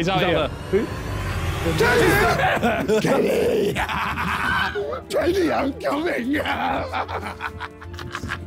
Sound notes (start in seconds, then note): 1.4 laughing maniacally